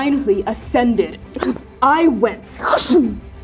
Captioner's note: both breathing heavily; fwooshing